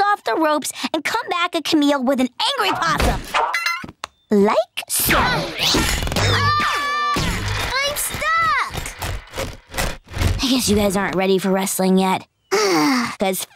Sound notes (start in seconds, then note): 6.2 screaming; 12.5 sighing